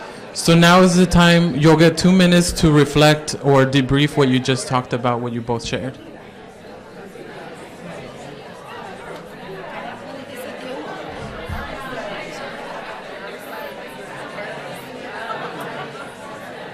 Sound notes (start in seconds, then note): 6.0 crowd discussing